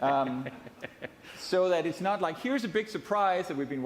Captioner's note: laughing